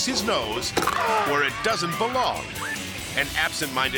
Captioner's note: gator jaw crunches